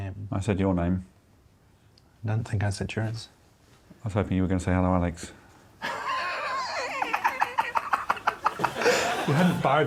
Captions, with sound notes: -Hmm. ...name. -I said your name. I don't think I said yours. I was hoping you were gonna say, "Hello, Alex." [high-pitched laughing]